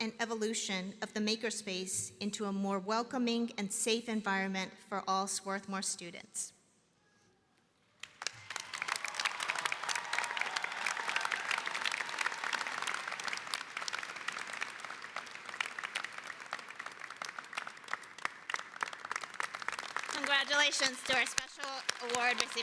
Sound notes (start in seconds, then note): 19.1 applause